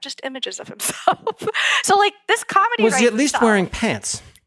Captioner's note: laugh